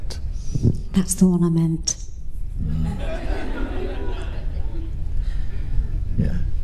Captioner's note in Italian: Risate